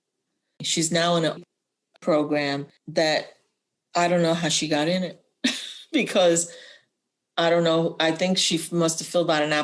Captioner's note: laughter